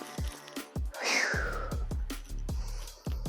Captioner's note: phew